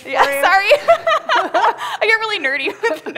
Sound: laughter

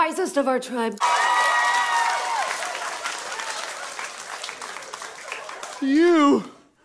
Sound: applause and cheering

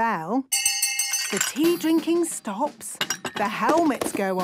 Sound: hand bell ringing; tea cups clinking

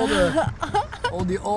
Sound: laughing

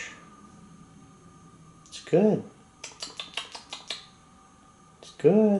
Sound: makes smacking sounds

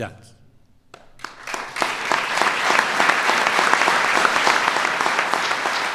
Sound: applause

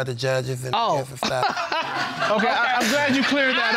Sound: all laughing

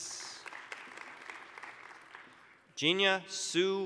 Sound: applause

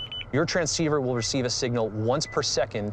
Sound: beeps

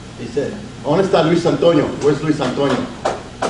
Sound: speaks Spanish

